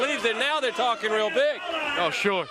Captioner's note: crowd chatter